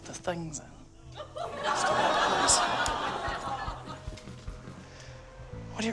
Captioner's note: laughter